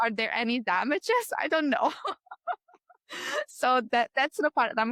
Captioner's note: laughs